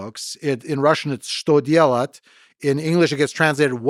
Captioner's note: speaking in Russian